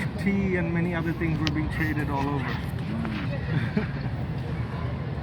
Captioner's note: laughs